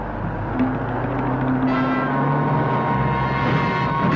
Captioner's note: engine whirring; suspenseful music